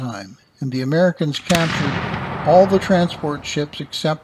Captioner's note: a cannon fires